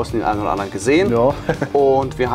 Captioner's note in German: lacht